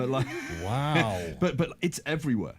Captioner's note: laughing